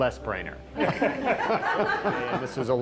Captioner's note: all laughing